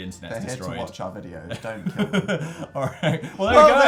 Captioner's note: chuckles